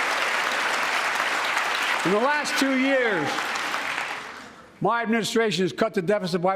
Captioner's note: cheers and applause